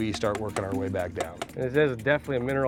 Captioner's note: hammering